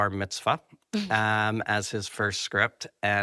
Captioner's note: chuckles